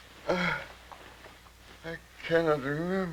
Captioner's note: groaning